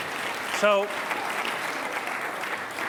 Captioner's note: applause